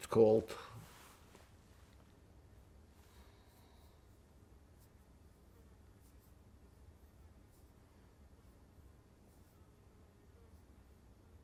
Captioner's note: pauses 13 seconds